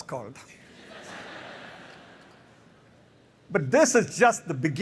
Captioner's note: laughter